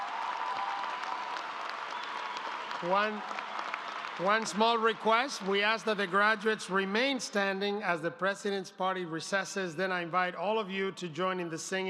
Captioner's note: applause